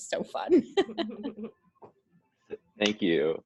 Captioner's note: laughs